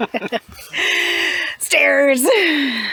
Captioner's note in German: Gelächter